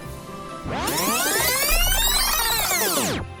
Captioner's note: rewind Tape Sound